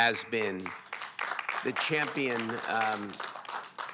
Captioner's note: applause